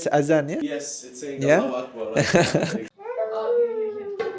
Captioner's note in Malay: ketawa